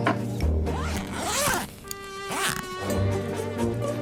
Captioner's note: quirky music; unzipping suitcase; quirky music